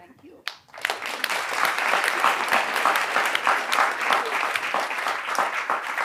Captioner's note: applause